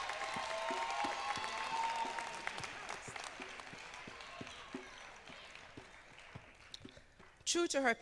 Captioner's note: cheers and applause